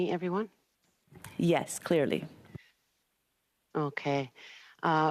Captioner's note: speaking Alternate Language